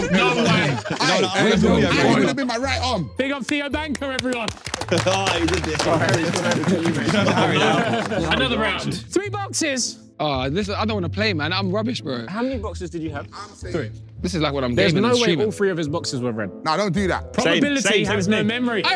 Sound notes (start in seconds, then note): 3.4 everyone clapping